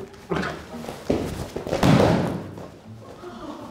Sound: thud

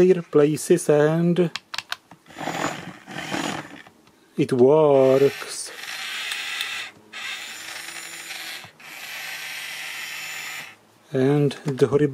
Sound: rattling and electric motor noise

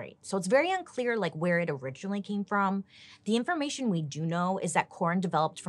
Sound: none

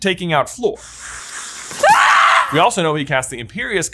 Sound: Fleur screams

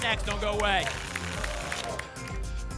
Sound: tickets shuffling

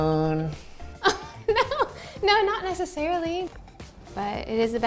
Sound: laughs

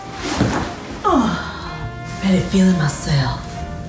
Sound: groans

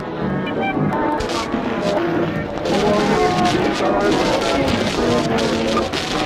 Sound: static crackles

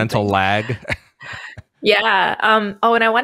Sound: chuckles

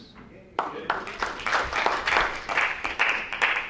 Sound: applause

